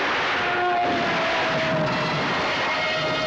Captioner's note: screaming; dramatic suspense music